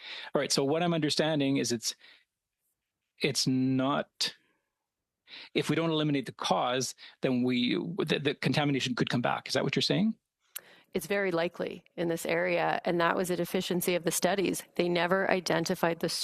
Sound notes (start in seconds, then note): 4.6 speaking French